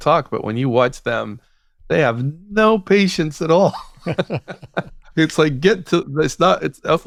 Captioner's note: laughter